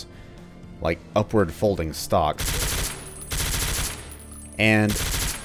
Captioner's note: suppressed gunfire